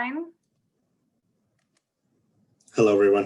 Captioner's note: clicking